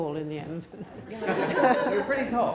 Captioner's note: laughing